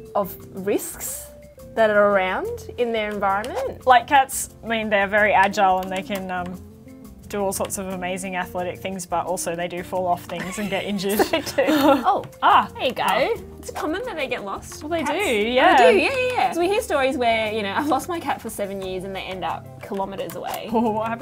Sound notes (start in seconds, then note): 10.4 both chuckle